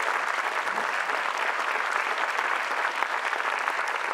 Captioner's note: applause